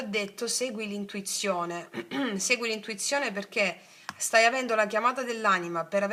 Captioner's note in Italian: schiarire la voce